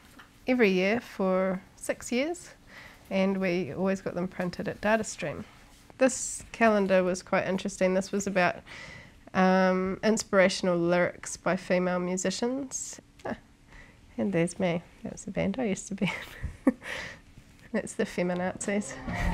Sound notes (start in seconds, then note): 16.5 laughing